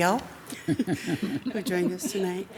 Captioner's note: council members chuckle